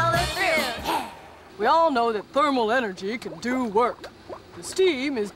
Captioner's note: low voice